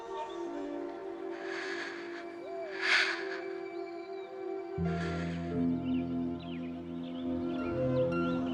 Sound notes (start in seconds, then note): 1.2 breathing deeply